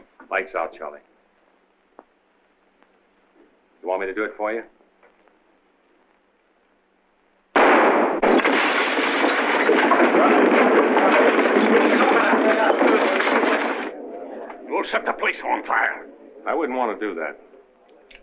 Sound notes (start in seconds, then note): 7.5 gunshot; 10.9 chatter